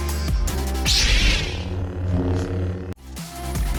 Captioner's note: lightsaber hums; upbeat music